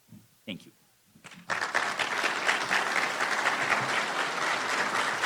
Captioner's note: applause